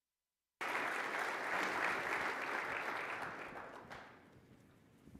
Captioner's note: audience applauding